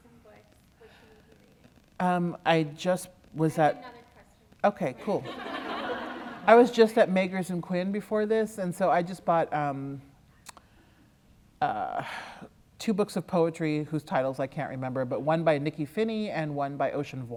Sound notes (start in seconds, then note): 5.1 laughter